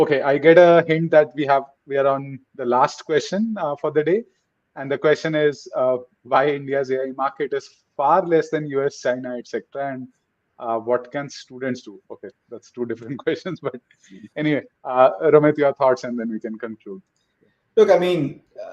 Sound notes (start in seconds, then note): 13.0 chuckles